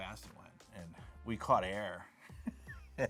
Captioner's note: laughs